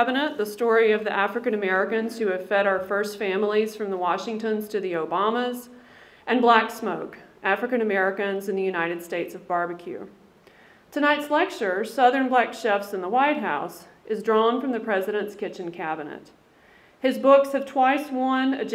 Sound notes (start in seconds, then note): none